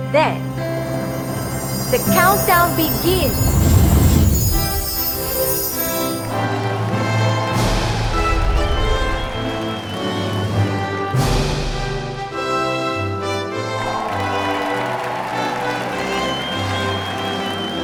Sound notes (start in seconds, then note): 3.9 🎼 Patriotic Music🎵; 3.9 👏 Cheers😮